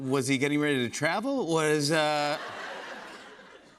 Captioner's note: laughter